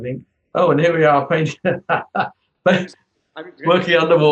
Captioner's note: laughs; laughs